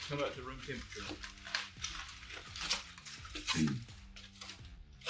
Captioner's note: foil clanking